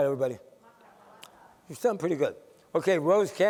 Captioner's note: laughter